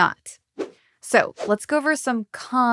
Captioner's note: logo whooshing